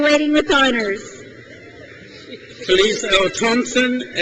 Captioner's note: crowd cheers